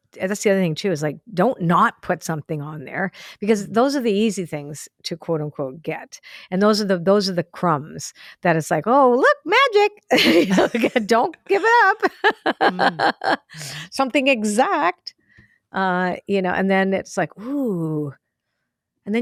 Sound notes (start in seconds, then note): 12.9 laughs